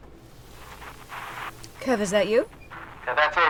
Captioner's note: static buzzing